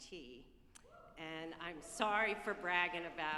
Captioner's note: group cheering